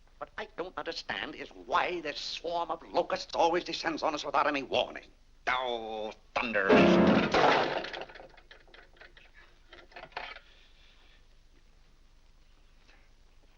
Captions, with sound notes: What I don't understand is why this swarm of locusts always descends on us without any warning. Ohhh, thunder! (mashes piano keys) (object clatters)